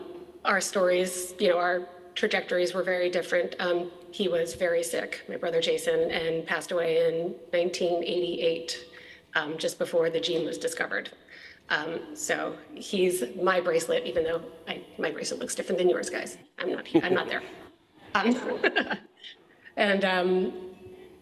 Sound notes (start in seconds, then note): 18.2 chuckles